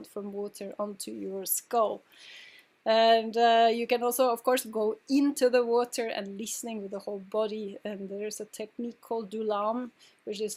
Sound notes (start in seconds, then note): none